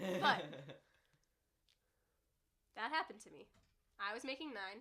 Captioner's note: laughing